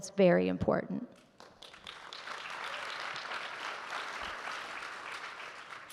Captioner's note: audience clapping